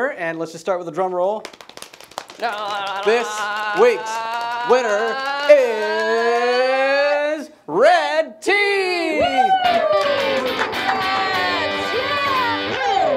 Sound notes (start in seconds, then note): 2.3 makes drum roll sound; 9.4 applause and cheering